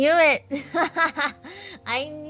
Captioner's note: laughs